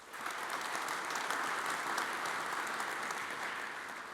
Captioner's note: audience applauds